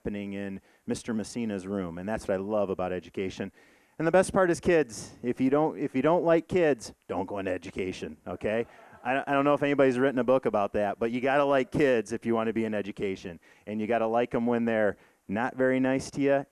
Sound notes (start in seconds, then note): 8.6 audience laughing